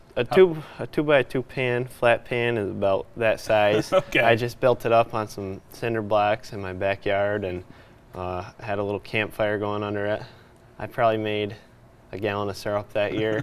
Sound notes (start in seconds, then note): 3.7 chuckling